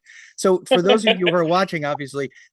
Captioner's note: laughs